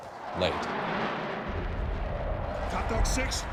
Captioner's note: jets roaring